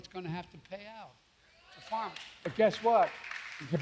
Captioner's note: applause